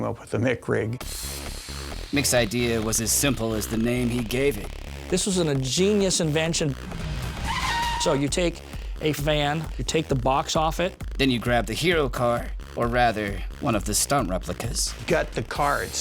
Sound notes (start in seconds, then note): 6.8 tires screeching